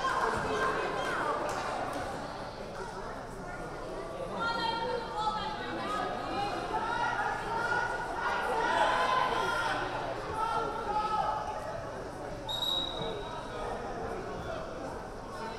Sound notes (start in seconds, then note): 4.2 team members yelling; 12.5 whistle blaring